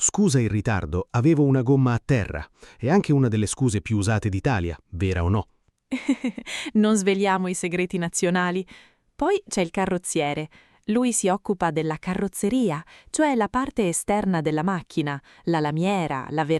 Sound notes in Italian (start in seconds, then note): 6.0 Haha